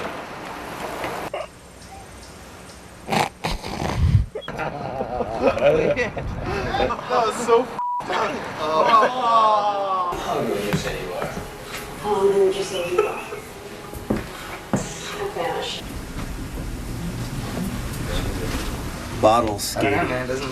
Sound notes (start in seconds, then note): 3.5 snorting to gold the laugh in; 4.3 laughs